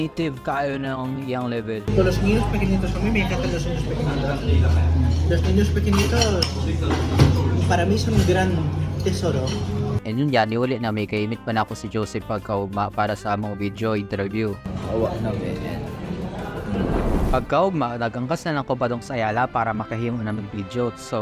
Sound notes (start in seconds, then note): 2.0 speaking in Spanish